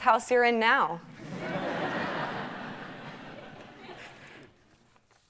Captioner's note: audience laughing